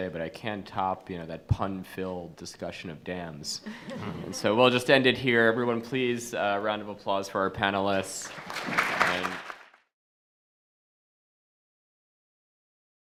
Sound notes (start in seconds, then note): 3.6 attendees laughing; 8.2 attendees applauding